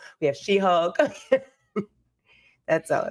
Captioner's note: giggling